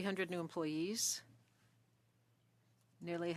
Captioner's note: speaking French